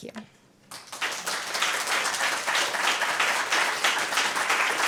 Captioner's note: applause